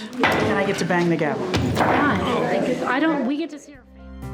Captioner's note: gavel clacking